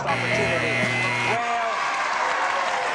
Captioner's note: buzzer; cheering, applause